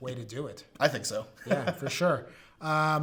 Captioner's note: laughs